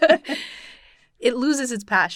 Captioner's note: both laughing